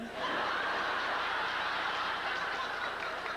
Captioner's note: howling laughter